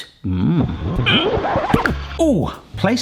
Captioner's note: tape audio scratch